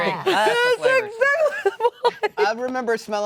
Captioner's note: laughing